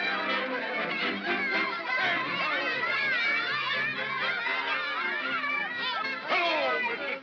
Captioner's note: celebratory chatter; jovial music; children yammering; jovial music